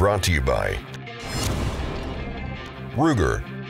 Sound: whooshing

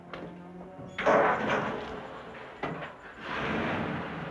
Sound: truck engine roaring

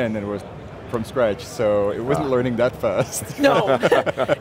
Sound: laughs

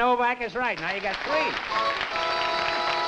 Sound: applause; three horn blows

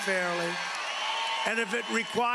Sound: cheering and applause

